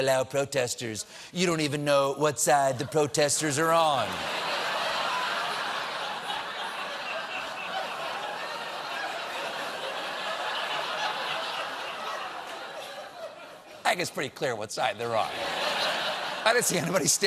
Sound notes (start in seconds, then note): 4.0 laughter